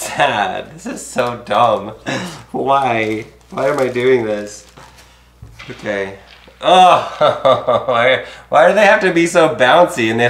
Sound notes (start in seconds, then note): 6.5 groaning